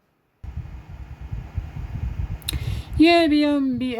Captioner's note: cpu cooler fan spinning